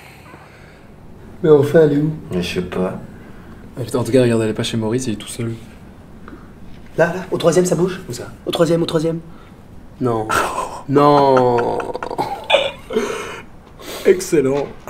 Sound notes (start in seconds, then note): 10.3 laughs